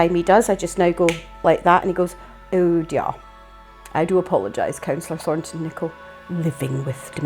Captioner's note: clicks finger